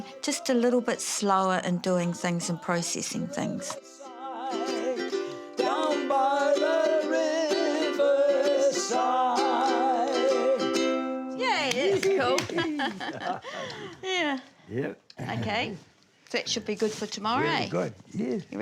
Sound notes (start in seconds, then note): 14.2 laughs; 15.2 chuckles